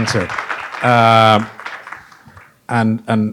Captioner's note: applause